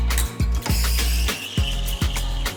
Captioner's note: espresso machine hissing